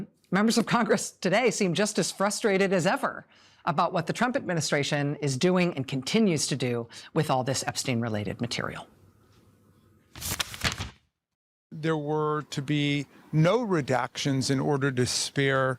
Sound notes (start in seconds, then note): 10.1 paper rustling